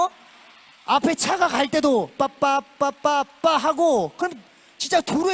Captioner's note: applauding the imitation